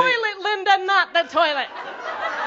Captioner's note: laughter